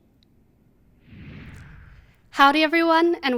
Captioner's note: air whooshing